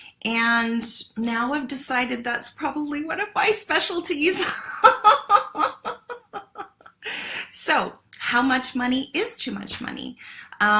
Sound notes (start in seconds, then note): 4.6 laughs